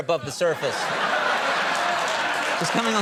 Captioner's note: audience clapping